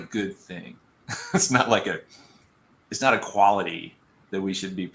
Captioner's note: laughter